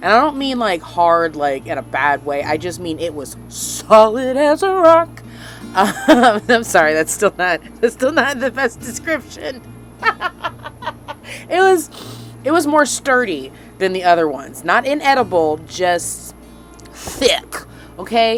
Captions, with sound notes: I don't mean like... Hard like, in a bad way. I just mean it was (sing-song) Solid as a rock! I'm sorry, that's still not the best description. (Laughing) It was more sturdy than the other ones, not inedible just... THICC.